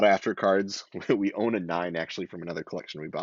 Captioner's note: chuckles